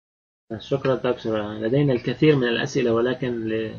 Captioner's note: speaking Arabic